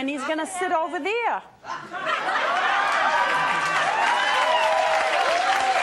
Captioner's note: audience laughing and applause